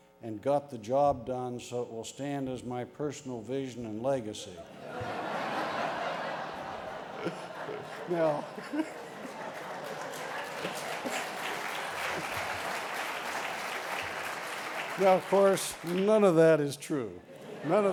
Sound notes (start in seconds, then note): 4.6 laughter; 9.9 applause